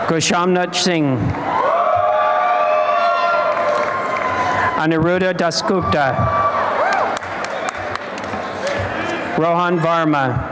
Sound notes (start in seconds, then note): 1.4 applause and cheering; 6.4 applause and cheering